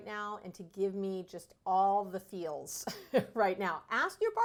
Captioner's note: laughs